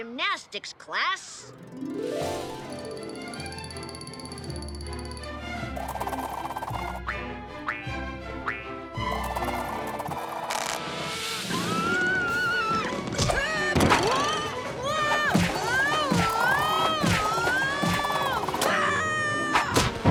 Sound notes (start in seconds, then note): 3.8 whimsical music; 12.1 boy screaming; 18.7 boy yelling